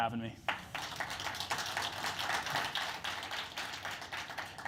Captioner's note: applause